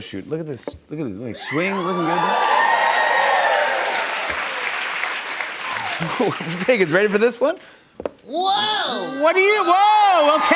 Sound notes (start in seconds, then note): 1.4 cheers and applause